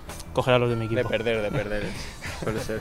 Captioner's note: laughs